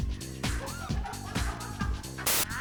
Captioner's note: laughter